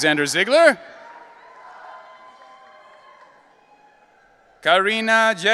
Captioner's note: audience cheering